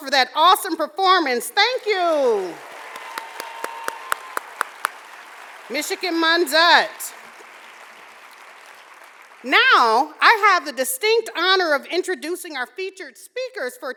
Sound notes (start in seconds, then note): 1.6 audience cheering and applauding